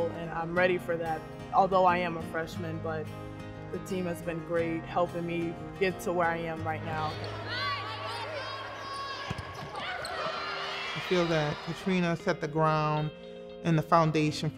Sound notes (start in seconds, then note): 7.4 players shout